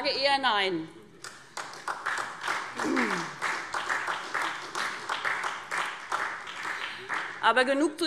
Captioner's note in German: Beifall SPD